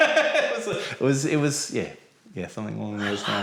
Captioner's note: laughing